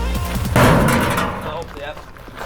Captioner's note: ball bangs